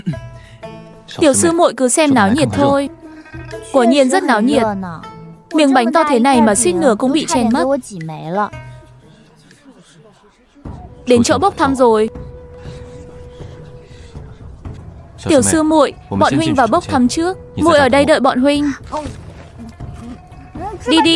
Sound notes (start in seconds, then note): 12.5 panting